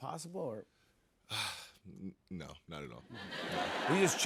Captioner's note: sighs